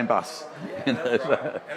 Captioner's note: laughs